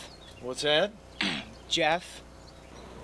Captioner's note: clears throat